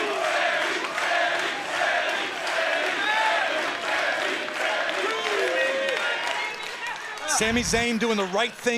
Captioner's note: crowd cheering